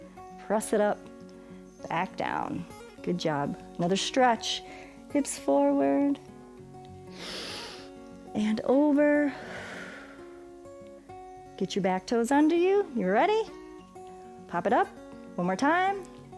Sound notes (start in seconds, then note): 7.1 exhales; 7.1 inhales